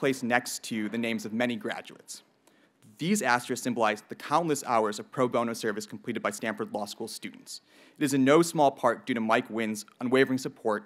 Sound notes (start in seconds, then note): none